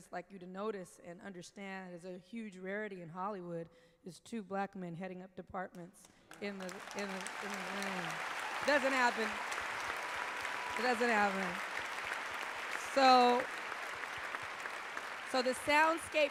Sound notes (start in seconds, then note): 8.1 applause